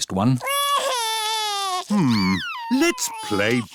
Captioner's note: crying